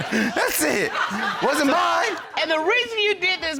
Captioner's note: laughs